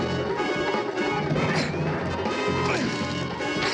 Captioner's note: police siren wailing